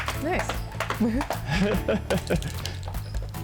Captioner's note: laughs